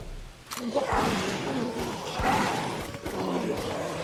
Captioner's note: video game sounds